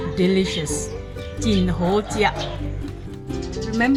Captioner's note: in Hokkien Dialect